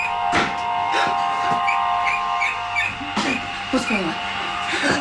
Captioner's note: rat squeaking